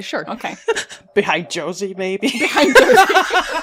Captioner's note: laughter; laughing